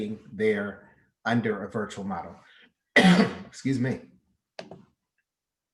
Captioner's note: coughs